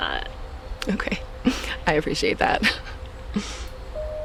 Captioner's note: laughs